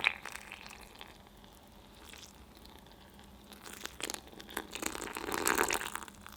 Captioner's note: kneading